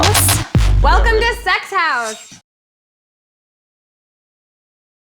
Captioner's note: voiceover